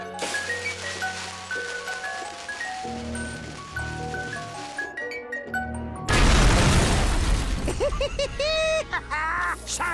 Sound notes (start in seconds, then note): 0.1 sizzling; 6.1 explosion booms; 7.5 cackling